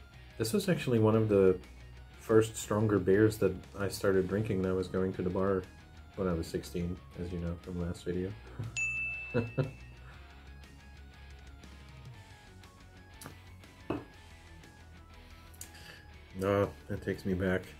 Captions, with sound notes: This was actually one of the first stronger beers that I started drinking when I was going to the bar. When I was 16, as you know, from last video. *chuckles* Ahh, that takes me back.